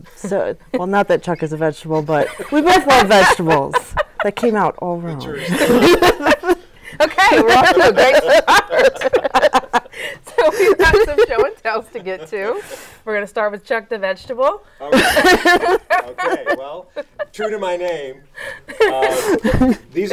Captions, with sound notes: So, well not that Chuck is a vegetable (laughing) but we both love vegetables. That came out all wrong. (all laughing) - Okay, we're off to a great start. Well, we have some show and tells to get to. We're gonna start with Chuck, the vegetable. - Okay, well true to my name, these are from last year,